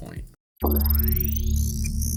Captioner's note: 80's sci fi computer sounds